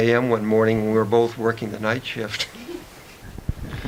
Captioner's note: chuckles